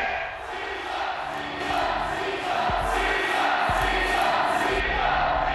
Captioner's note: crowd chanting